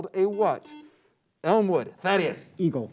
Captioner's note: beep